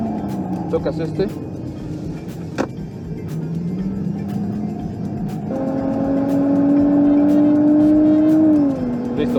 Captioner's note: engine roaring